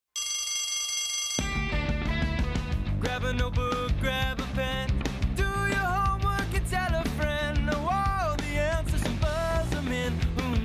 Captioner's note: bell rings